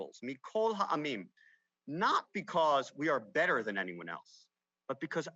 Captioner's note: speaks Hebrew